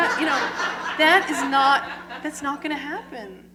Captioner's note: laughter